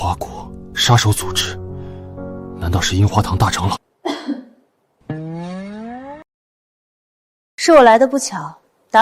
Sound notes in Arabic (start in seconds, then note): 4.0 سعال